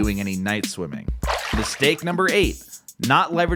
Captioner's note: water splashes